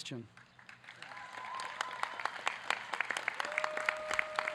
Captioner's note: audience cheering